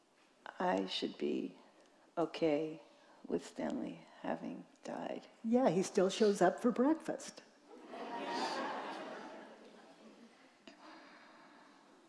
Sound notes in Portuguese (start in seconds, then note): 7.8 risos da plateia